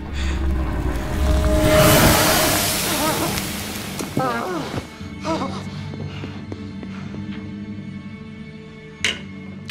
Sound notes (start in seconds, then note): 2.2 water pouring